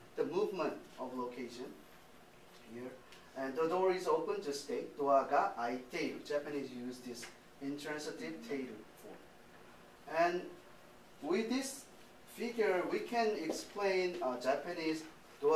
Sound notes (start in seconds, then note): 5.1 speaking japanese